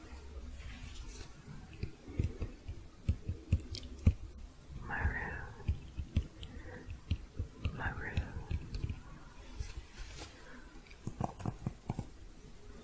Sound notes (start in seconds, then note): 1.7 rhythmic tapping; 11.0 typing sounds